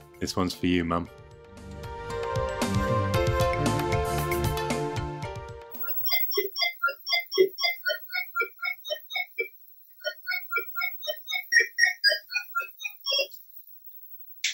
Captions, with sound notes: This one's for you Mum! (Frogger bleeps and bloops)